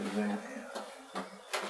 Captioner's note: under his breath